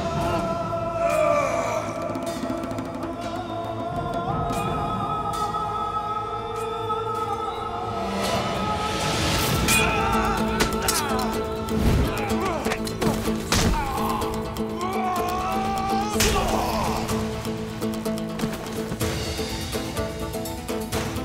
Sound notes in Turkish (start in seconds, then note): 0.9 İnilti sesi; 3.1 Müzik - Hüzünlü; 10.2 Dövüşme sesleri; 10.5 Kılıç sesleri; 13.7 Müzik - Aksiyon